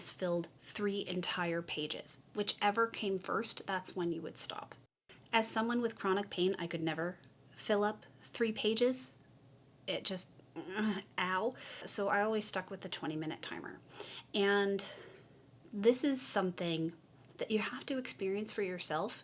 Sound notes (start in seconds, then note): 11.0 groan